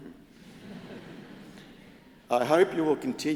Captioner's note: crowd chuckles